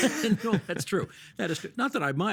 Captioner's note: chuckling